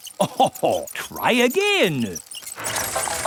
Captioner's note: chuckles